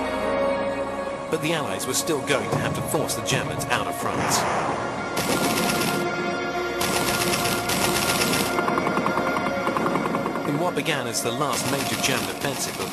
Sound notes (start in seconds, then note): 5.2 guns blasting